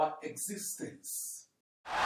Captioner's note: wild applause and cheering for 17 seconds